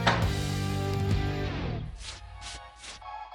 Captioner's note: upbeat music; tool clanks; paint brushing